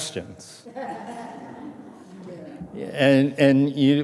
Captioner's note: audience laughing